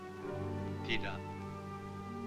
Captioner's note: Malay spoken audio